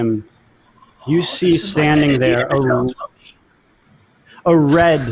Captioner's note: distorted audio